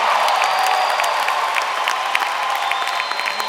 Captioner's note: applause